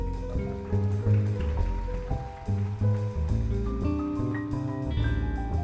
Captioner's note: gentle jazz music; audience applauding; gentle jazz music continues